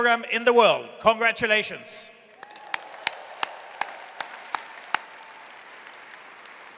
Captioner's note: audience cheers and applauds